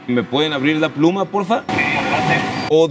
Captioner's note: voice on the radio